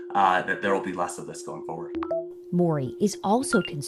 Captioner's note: notification beeping